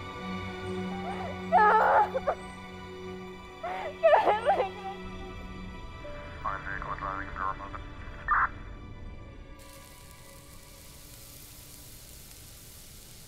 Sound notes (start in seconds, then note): 1.3 Yolanda crying